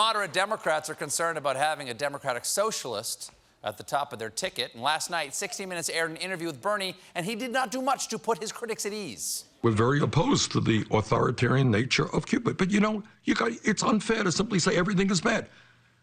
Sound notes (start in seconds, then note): none